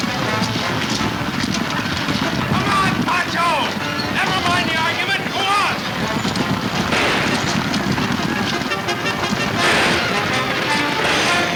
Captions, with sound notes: Come on, Pancho, nevermind the argument, go on. (guns firing) (exciting orchestra music)